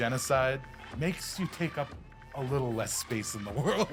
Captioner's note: laughs